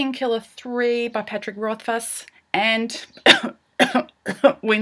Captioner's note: cough, cough; cough